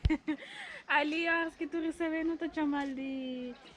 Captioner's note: laughter